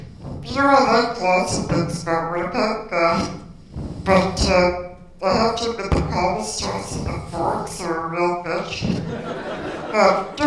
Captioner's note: laughter